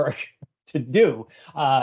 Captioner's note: chuckling